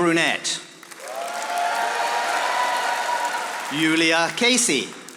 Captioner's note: audience applauding